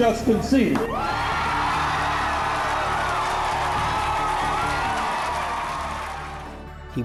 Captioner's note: crowd Cheers